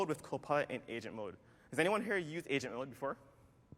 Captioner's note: none